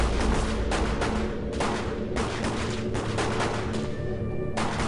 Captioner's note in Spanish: Disparos